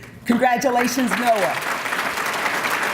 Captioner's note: applause